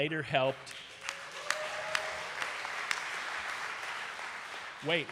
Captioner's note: audience cheering and applauding